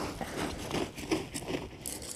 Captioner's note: rustling